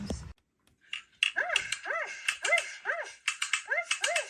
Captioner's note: dog barks